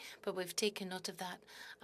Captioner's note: speaking in French